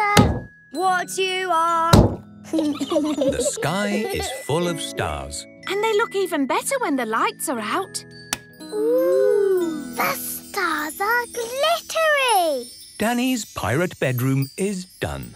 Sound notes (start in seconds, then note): 2.5 giggling